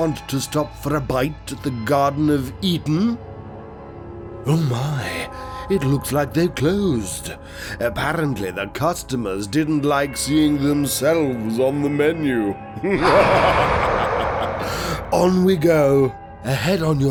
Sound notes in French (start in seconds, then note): 10.0 rire méchant